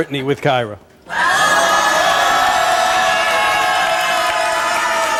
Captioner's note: audience yelling